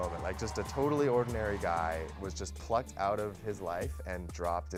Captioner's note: cheers and Applause